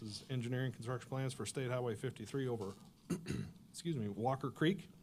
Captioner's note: clears throat